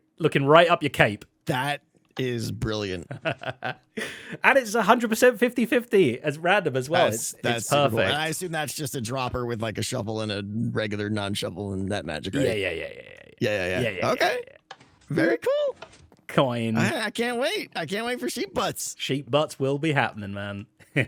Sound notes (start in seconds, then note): 2.5 laughs